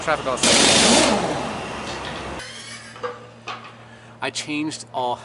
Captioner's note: machine whirring